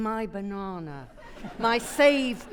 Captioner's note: audience laughing